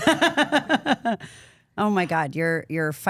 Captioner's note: woman laughing